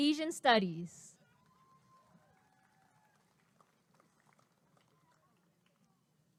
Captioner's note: applause and cheering